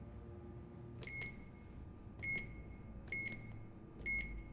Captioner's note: beeping